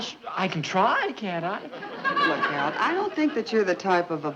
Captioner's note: audience laughing